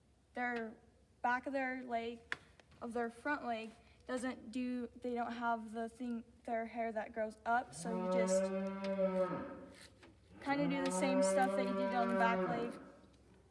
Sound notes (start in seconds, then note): 7.8 cow mooing